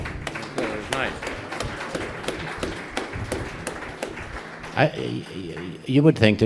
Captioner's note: applause